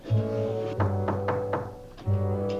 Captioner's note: someone knocks on door